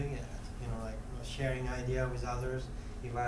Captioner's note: none